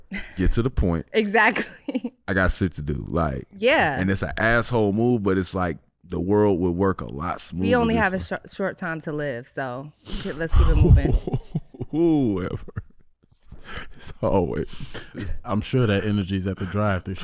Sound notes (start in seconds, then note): 10.4 laughing